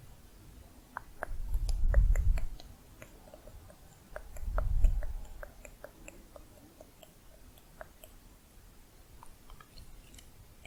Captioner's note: tongue clicking